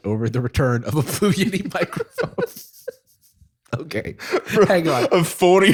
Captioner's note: laughter